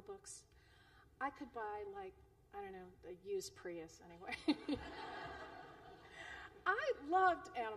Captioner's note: laughter